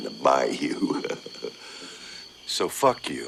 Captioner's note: chuckles softly